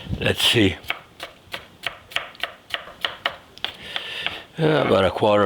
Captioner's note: knife chopping